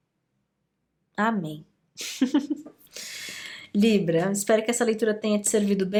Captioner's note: laughs